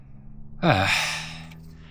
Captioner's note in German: stöhnt